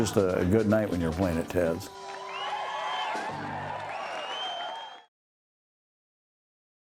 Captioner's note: applause